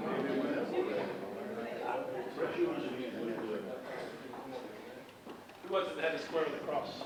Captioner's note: audience chatting indistinctly